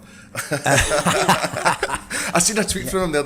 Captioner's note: laughing